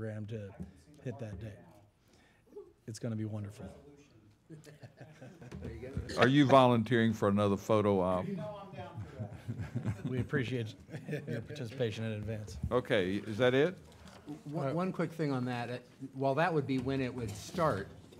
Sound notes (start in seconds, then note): 4.5 laughing